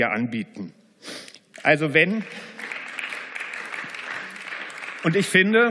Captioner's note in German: Beifall